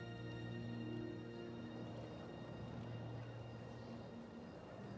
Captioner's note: les grillons gazouillent